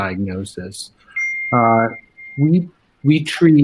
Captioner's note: bell chiming